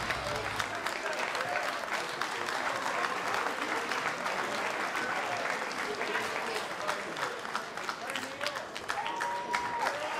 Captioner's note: applause